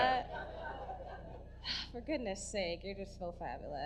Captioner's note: sighs